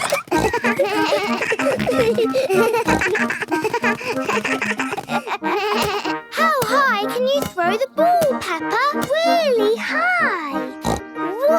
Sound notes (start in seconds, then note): 0.0 giggles; 2.5 snorts, bleating